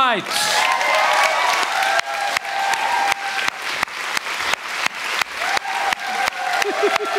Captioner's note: audience Applause